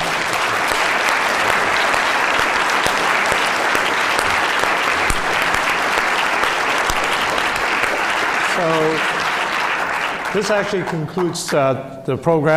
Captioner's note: applause